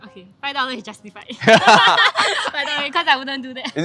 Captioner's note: laughs